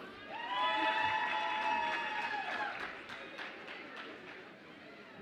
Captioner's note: audience applauds and cheers